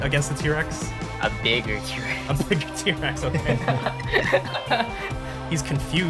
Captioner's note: laughs